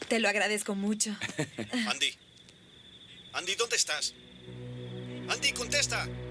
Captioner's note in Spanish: Rádio de comunicação